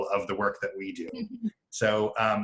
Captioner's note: laughing